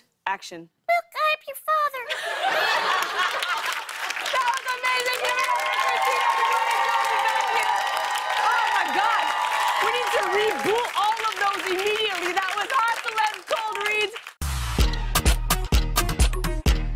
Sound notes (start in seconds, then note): 1.7 laughter and applause; 6.2 cheers and applause